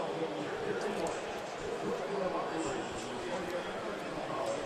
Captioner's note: pa announcement